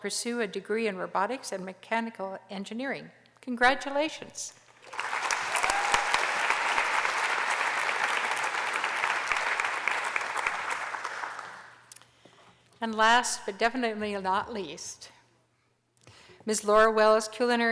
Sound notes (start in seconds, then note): 4.7 applause